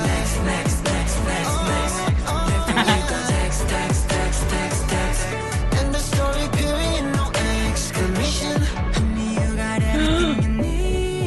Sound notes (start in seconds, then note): 2.6 giggle; 9.9 gasp